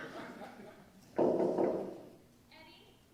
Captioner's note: there's a knock at the door